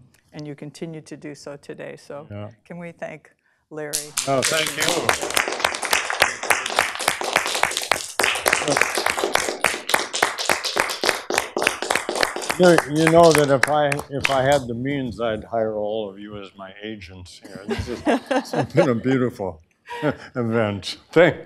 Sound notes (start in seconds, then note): 6.9 applause